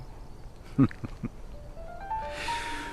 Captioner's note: chuckles